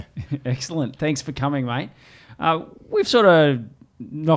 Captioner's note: laughs